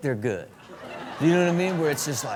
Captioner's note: audience laugh